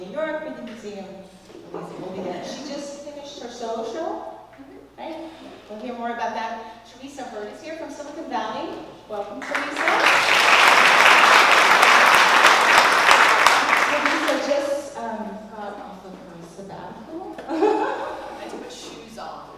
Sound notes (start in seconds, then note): 9.4 applause; 17.4 laugh